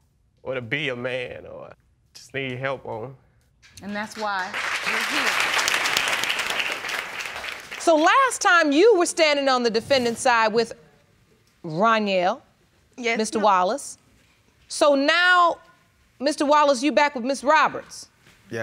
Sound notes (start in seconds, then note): 5.6 audience claps